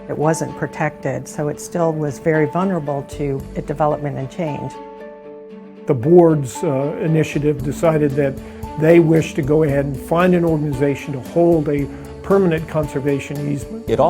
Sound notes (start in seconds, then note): 6.0 male Voice